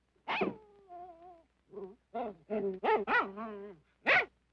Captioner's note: dog whimpering